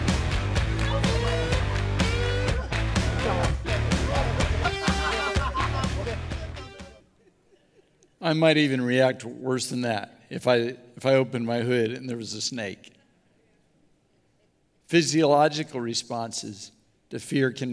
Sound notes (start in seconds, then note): 2.0 crying